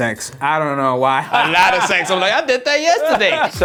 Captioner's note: laughing